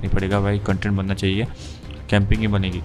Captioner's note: sniffs